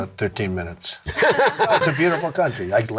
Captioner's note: all laughing